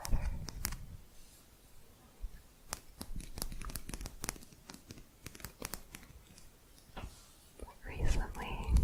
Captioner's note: quick tapping